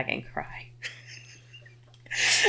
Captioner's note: laughing